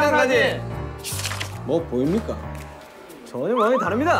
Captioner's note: mysterious footstep